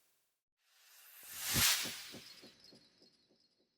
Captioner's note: sound effect